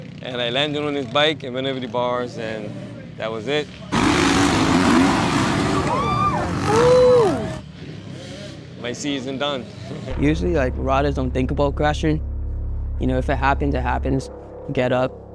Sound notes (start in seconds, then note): 5.3 screams; 5.5 oooh!